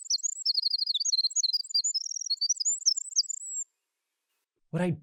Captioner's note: Winter Wren singing